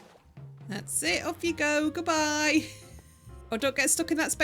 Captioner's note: laughing